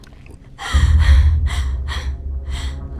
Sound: gasping

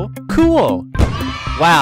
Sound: kids Cheering Sound Effect

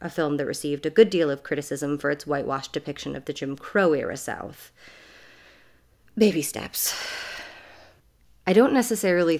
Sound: sighs

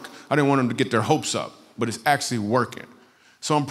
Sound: none

